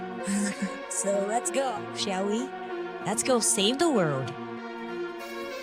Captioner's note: sigh